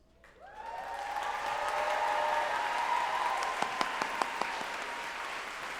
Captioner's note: group applauding and cheering